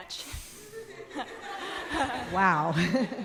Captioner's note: audience laughing